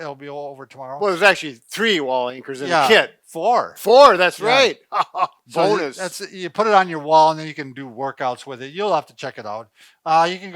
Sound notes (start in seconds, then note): 4.3 laughs